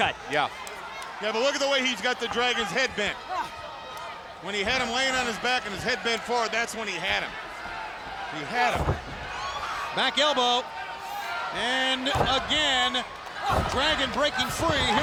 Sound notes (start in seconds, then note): 9.0 blows thudding